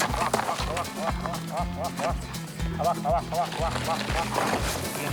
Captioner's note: giggling softly